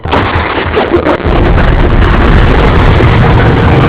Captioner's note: stammers; children laughing